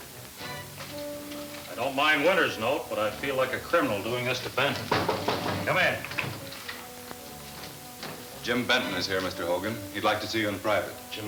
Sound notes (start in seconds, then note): 4.7 knocking on door